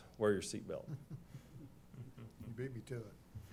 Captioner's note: chuckling